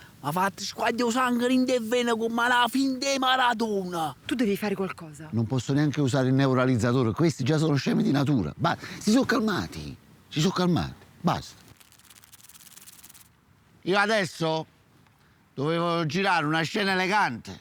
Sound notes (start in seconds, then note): 11.4 hissing sounds